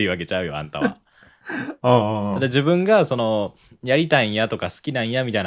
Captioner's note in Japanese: 笑い